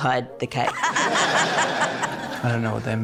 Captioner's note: laughter